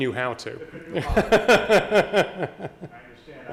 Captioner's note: laughing